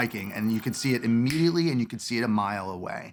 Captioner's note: snaps